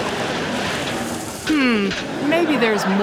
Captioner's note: audience laughing